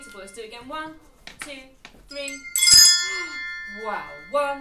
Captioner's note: bell sounds; bell sounds